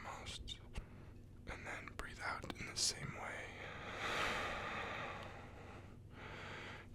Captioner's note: exhale